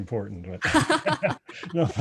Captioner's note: laughs